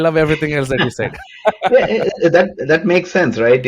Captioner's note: laughs